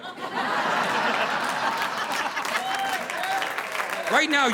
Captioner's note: audience laughing; audience applauding